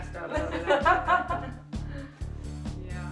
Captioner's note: laughs